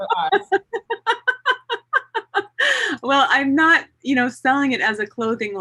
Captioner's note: laughs